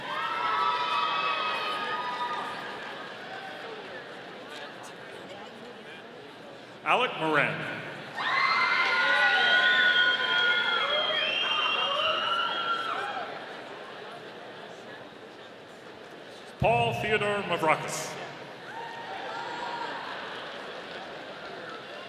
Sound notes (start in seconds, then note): 0.2 audience cheering; 8.2 audience cheering; 18.8 audience applauding